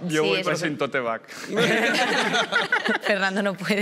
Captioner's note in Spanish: Risas